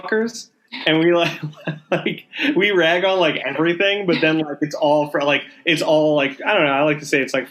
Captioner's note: laughing